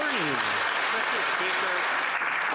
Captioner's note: some Applause